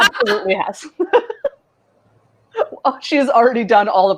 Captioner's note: laughing